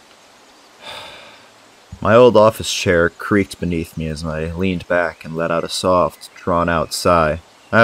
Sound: sigh

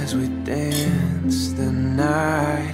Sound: clinking glasses

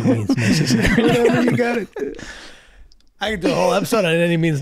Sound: laughs

